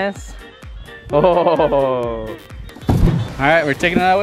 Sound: laughing

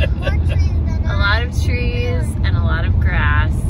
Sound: laughing

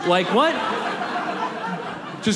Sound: audience laughs

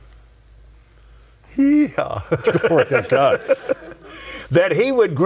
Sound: all laughing

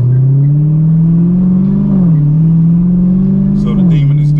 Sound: engine revving

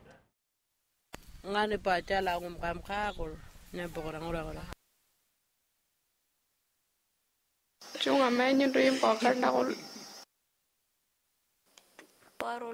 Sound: foreign language

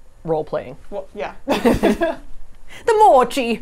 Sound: laughs

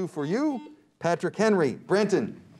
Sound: buzzer beeps

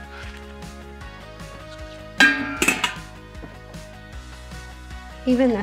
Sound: pots tinkling

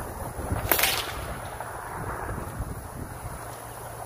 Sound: whip cracks

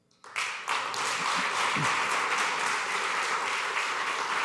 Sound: applause

